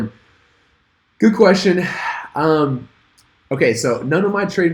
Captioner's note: sighs